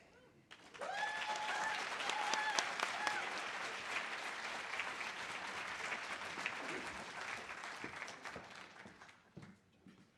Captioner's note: audience applause